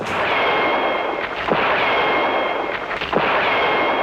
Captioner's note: gunfire pops